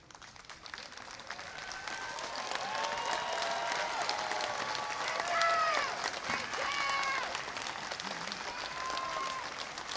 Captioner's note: applause